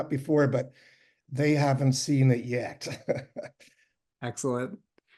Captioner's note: chuckles